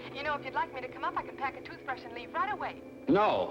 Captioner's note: on phone